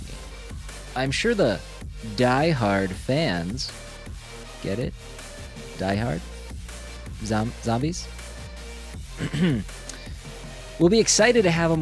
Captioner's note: clears throat